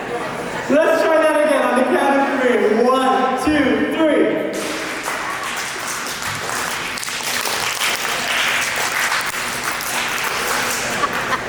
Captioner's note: clapping